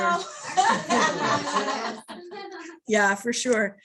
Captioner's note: laughter